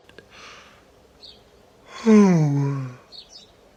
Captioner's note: yawning